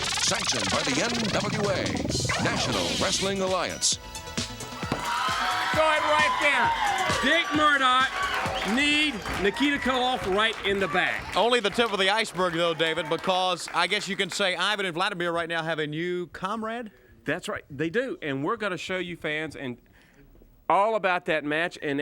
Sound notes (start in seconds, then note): 5.1 crowd cheering